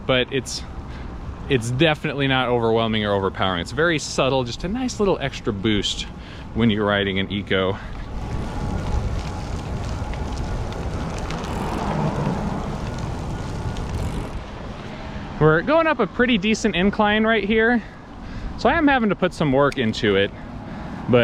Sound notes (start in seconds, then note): 7.9 wheels whizzing; 8.0 motor roaring softly